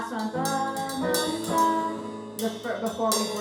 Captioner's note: humming